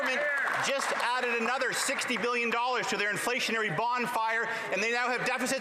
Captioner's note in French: voix de l'interprète